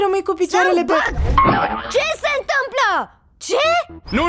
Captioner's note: boing!